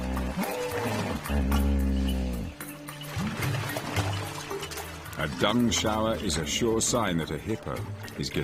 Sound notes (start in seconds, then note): 4.1 hippos grunting